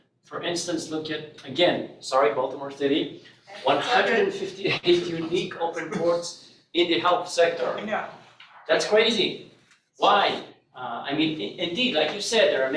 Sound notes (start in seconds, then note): 3.6 all laughing